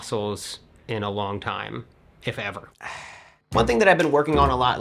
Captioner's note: sighs